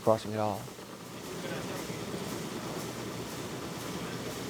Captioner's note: machinery jitters